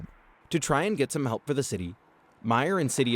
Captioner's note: voice-over